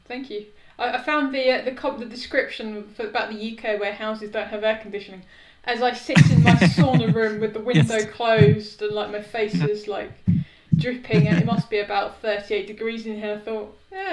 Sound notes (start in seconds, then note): 8.6 laughs